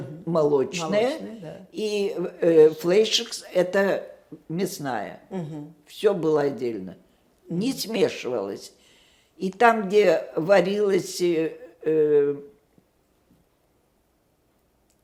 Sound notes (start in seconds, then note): 0.0 yiddish; 2.2 yiddish